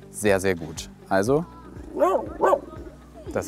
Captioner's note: Ole barks